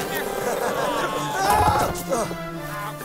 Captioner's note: elcano laughs